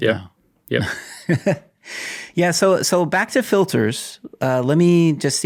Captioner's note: chuckles